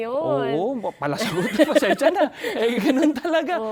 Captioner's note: both laughs